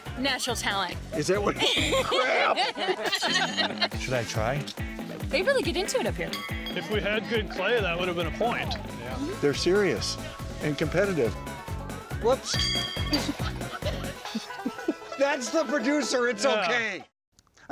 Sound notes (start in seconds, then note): 1.5 laughter; 12.4 horseshoe hitting post; 13.0 laughter